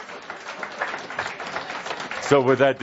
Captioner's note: audience applause